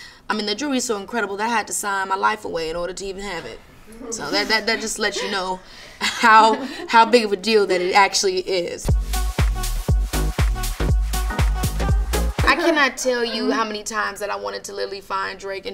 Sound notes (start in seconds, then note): 4.1 laughter in background; 8.8 upbeat music